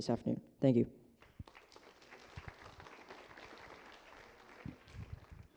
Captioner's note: applause